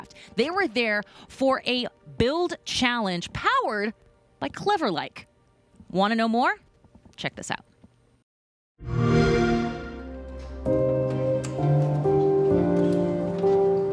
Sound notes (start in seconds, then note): 8.8 xbox sound; 9.2 gentle music